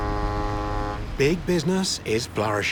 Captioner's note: foghorn blows